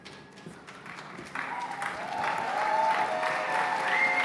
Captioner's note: cheers and applause